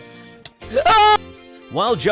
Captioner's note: perfectly cut scream